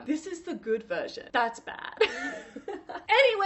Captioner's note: laughs